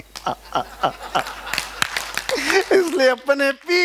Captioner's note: laughing